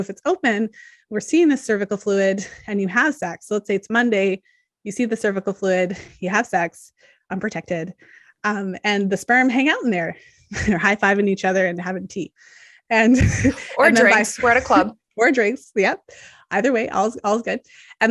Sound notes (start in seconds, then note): 10.3 chuckles